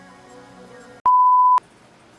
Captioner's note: beep